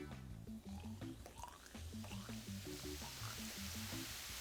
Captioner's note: liquid bubbling